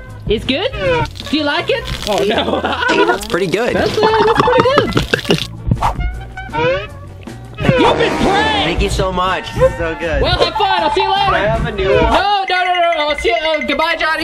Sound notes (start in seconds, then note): 6.5 glugging